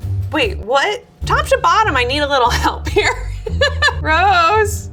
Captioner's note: laughs